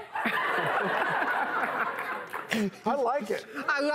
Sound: audience laughs

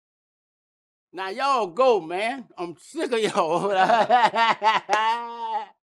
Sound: laughter

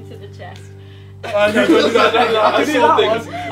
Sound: group laughing

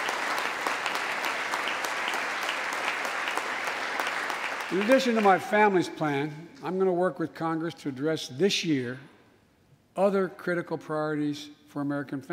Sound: applause

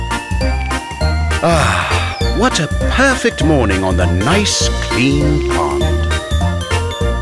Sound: narrator sighs

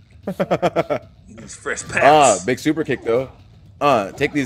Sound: laugh

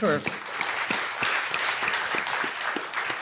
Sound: applause

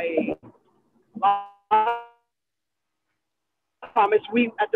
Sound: audio glitching

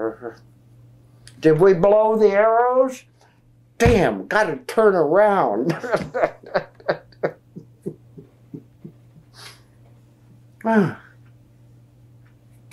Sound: laughs

